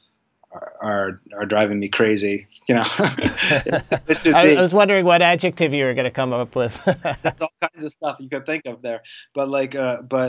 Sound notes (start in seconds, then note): 2.7 laughs